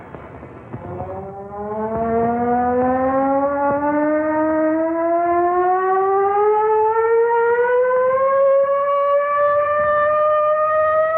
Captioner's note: sirens